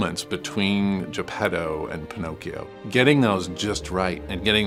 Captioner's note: none